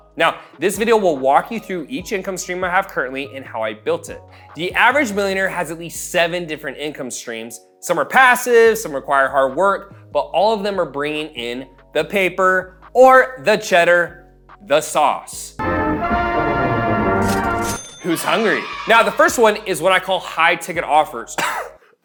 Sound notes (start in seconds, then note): 17.2 cash register dings; 21.3 coughs